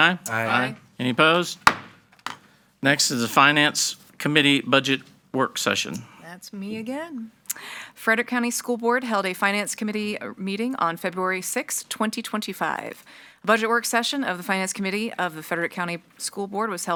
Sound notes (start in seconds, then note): 1.6 gavel banging